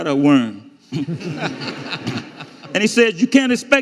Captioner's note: audience laughing